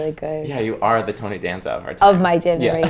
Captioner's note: laughs